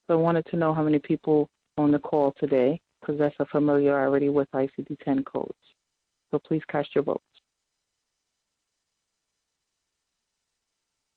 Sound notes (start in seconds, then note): 8.0 silence